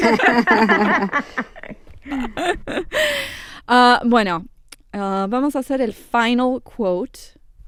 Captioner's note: laughter; speaking Spanish